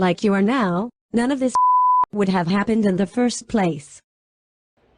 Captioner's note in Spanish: bip